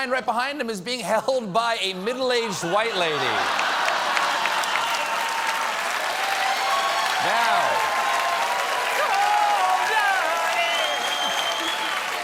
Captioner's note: cheers and applause